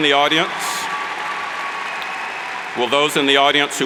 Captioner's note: cheers and applauds